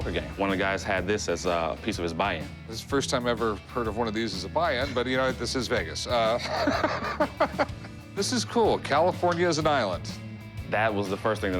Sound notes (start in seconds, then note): 6.2 laughter